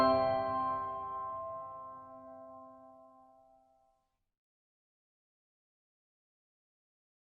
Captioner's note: silence